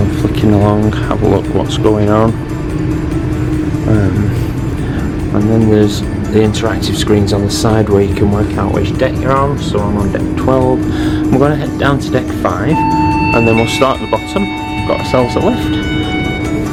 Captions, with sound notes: flicking along have a look what's going on and then there's the interactive screens on the side where you can work out which deck you're on so I'm on Deck 12 I'm going to head down to deck five [lift pings!] and then we'll start at the bottom got ourselves a lift